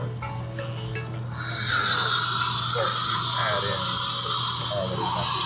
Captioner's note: machine whooshes